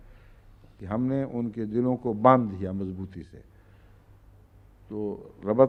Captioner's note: Arabic